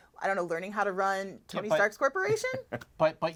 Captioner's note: chuckles